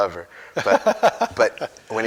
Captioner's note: laughs